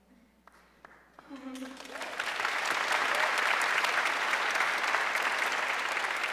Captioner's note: audience cheering and applauding